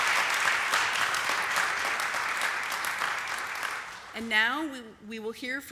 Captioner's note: applause